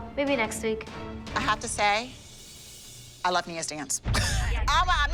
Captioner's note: laughs